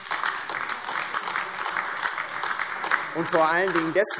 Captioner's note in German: Beifall AfD